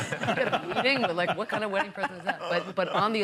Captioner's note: laughter